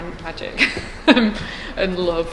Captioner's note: laughs